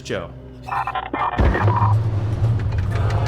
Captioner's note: signal noises